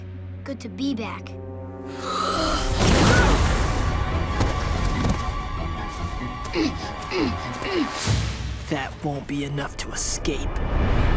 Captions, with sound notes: Good to be back. [grunting] That won't be enough to escape.